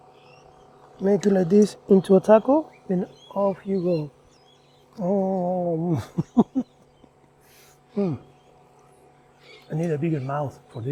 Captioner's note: laughs